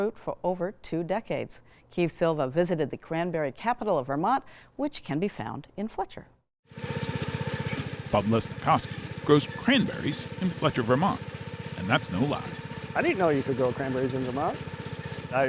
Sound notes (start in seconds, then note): 6.6 machine whirring